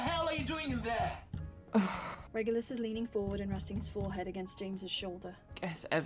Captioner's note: pounding on the door continues; Reg sighs